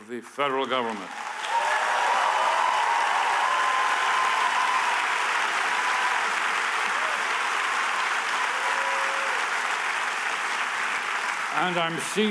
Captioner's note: applause